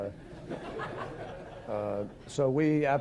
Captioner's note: laughter